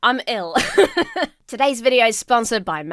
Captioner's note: laughs